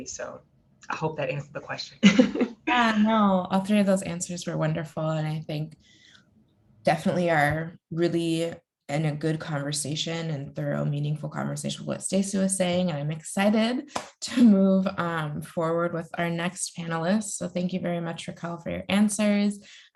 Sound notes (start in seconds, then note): 2.0 laughs